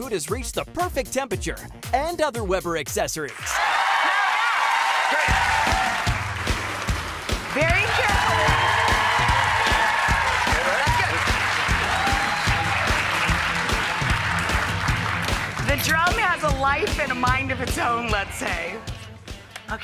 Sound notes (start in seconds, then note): 3.6 audience applause; 12.5 upbeat music